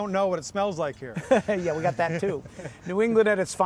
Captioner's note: laughing